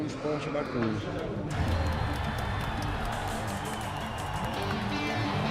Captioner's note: crowd cheering